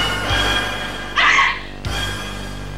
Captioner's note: action music; scream